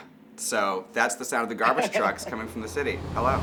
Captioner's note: Baga chuckles